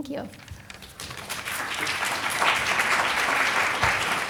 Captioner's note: people applauding